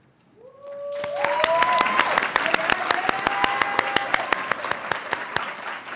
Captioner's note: audience cheering and applauding